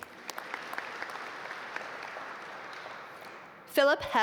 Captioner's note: audience applaud